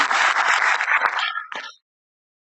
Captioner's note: applause